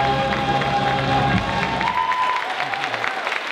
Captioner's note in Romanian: Aplauze